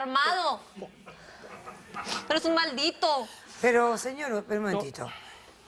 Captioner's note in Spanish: Risas